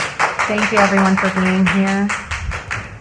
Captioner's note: applause